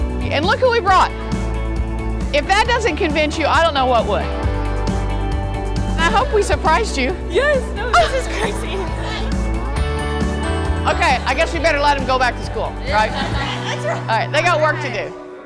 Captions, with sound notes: And look who we brought. If that doesn't convince you, I don't know what would. - I hope we surprised you. - Yes! - (laughter) Okay, I guess we'd better let them go back to school, right? They've got work to do.